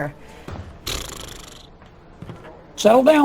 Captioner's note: rep. boebert blows raspberry